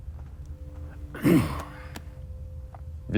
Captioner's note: Marcus clearing throat